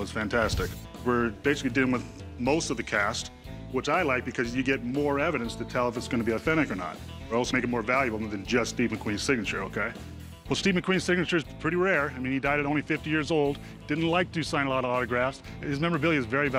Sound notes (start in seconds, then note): none